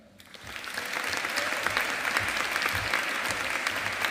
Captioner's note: audience applauding